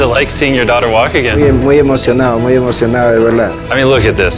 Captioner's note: Spanish